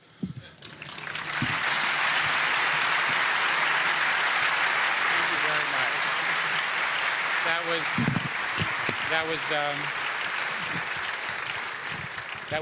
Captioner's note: applause